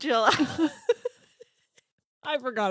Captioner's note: laughs